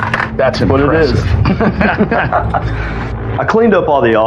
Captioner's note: both h chchucklkle